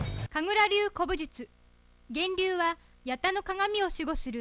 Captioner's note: none